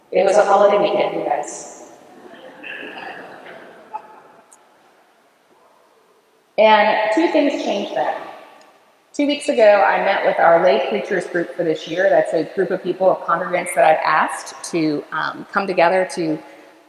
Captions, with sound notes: it was a holiday week my friends. (chuckles from congregation) and two things changed that two weeks ago I met with our lay preachers group for this year, that's a group of people, of congregants I have asked to come together to